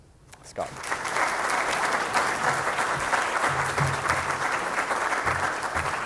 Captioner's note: applause